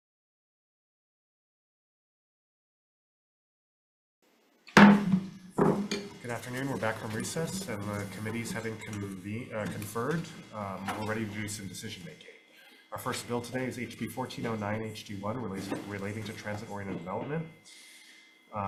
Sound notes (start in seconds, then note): 4.8 gavel bangs